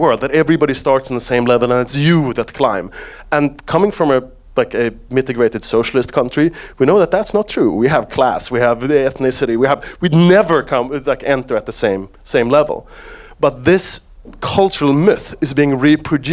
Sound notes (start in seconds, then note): none